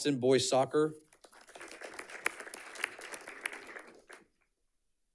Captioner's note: audience clapping